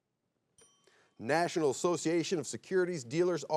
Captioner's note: bell chimes